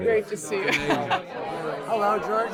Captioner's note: woman laughs